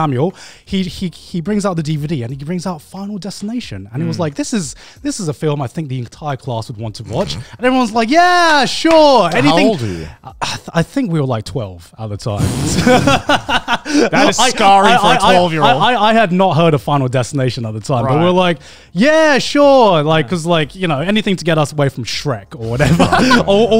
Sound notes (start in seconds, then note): 12.7 everyone laughs